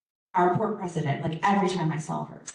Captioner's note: none